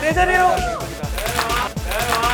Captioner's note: clap